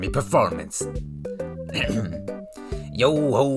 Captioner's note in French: toussote